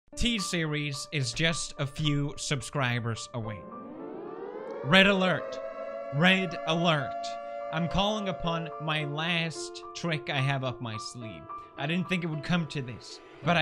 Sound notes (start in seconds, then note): 3.5 sirens